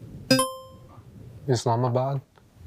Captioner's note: buzzer beeping; buzzer ringing